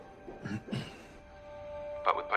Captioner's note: clears throat